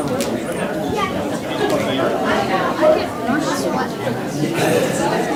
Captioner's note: crowd talking indistinctly